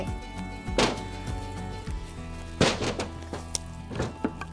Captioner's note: wood thuds